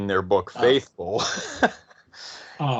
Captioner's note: chuckles